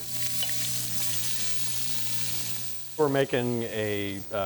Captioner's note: pot sizzling